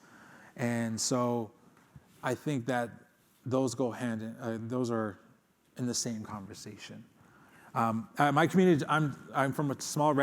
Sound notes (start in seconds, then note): none